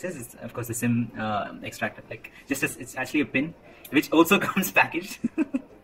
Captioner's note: laughter